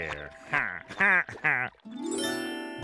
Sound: laughing

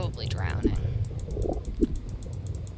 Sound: mouse clicking rapidly

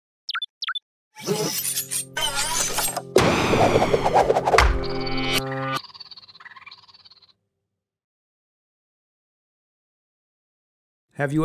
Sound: technical Sound Effects

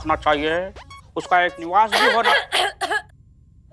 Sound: clears throat

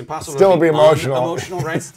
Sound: laughs

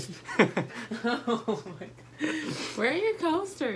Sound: laughter

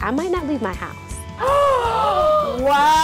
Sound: gasps

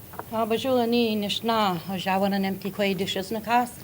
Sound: speaking ojibwe

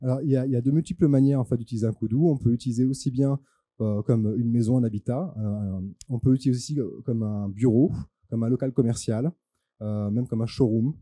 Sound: translating into french

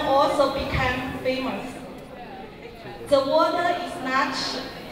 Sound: speaking in Mandarin

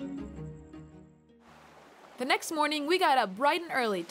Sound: waves lap the shore

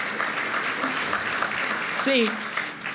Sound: applause

